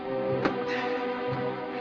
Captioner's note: sighs